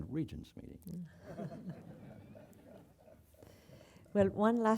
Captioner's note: laugh